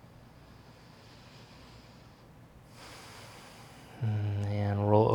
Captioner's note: breathing deeply